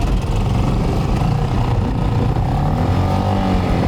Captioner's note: boat engine roaring